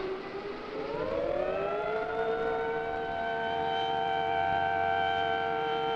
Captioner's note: siren wailing